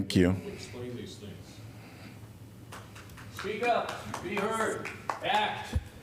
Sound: applause

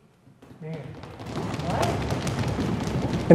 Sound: students stomping feet

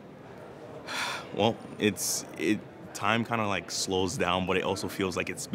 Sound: sighs

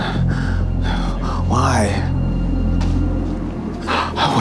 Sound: gasping

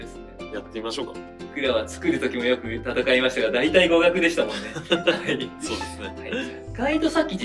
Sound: laughs

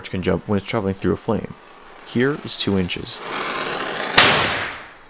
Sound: bang

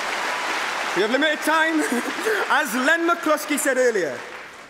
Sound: cheering & Applause

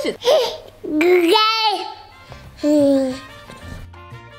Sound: baby babbles

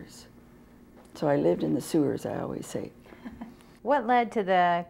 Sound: chuckle

